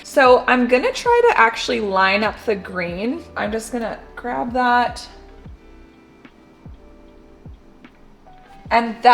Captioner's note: scissors Snipping